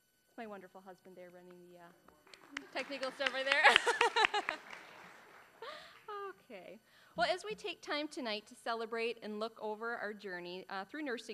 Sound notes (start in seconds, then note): 3.3 laughing; 4.1 applause